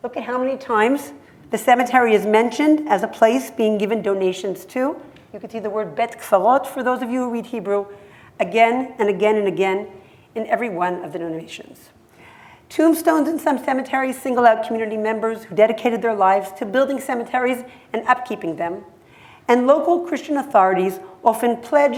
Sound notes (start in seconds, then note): 6.1 hebrew